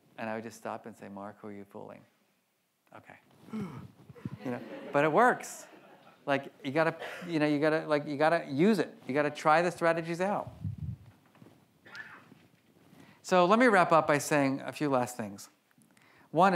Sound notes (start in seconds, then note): 3.3 grunting; 4.3 audience laughs